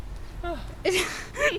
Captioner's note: breathing all heavy